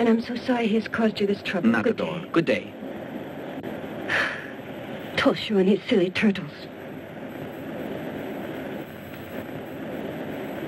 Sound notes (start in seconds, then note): 4.0 Nobuyo sighs